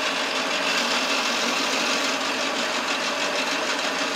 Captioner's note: mechanical milling noise